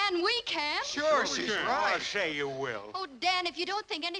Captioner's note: crowd